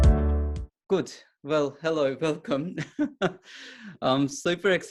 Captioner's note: chuckles